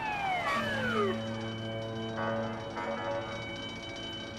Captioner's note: fire alarm ringing